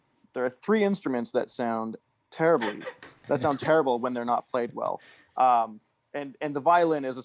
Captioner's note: laughs